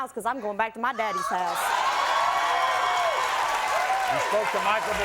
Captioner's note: audience cheering